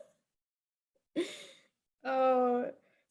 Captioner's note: laughter